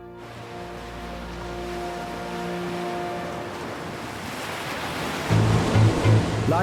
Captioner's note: soft music; waves crashing